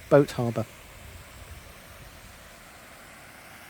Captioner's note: sound of flowing water from the fountains